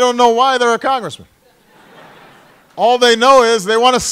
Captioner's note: laughter